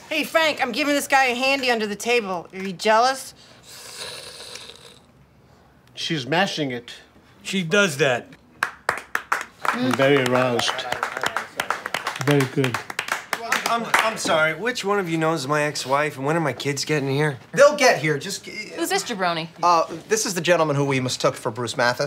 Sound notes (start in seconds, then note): 3.3 snarling; 8.6 applause